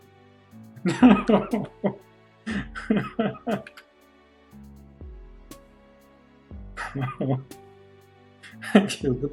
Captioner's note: laughing